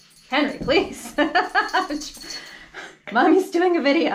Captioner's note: chuckles